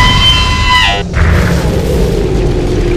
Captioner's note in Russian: бам; звук потери энергии